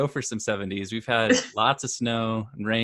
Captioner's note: laughs